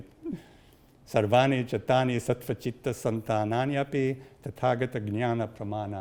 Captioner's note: speaks in Sanskrit